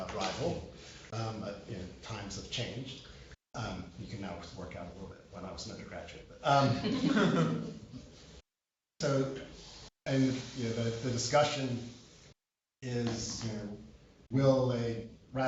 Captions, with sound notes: You can not work out a little bit, when I was an undergraduate. [LAUGHTER] The discussion is, we'll ratify TPP during the lame dark session,